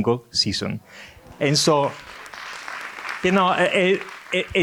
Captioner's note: audience applauding